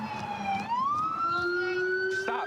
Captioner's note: sirens